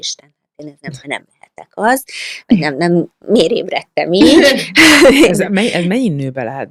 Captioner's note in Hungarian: nevetés